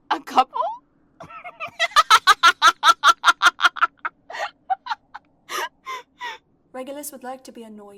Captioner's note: Cerci laughs